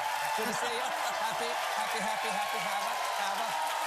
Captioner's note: cheers and applause